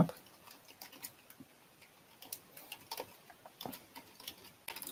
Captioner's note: computer keys clicking